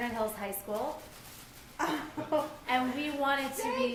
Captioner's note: laughs